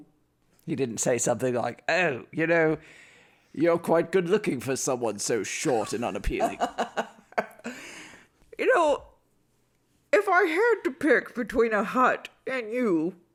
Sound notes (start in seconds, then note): 5.6 laughs